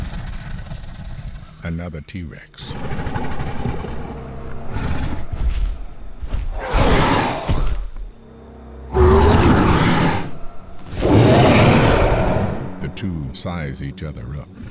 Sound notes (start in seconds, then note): 6.7 roaring